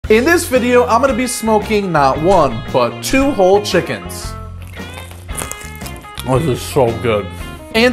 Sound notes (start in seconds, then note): 4.6 crunch